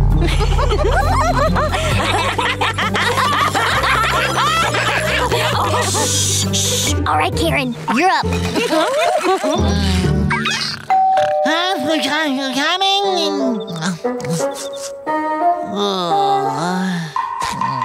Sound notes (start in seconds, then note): 0.2 giggling; 8.4 giggling; 10.9 doorbell ringing; 15.7 groaning